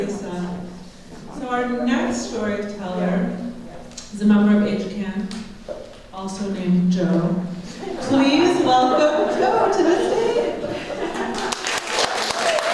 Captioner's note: applause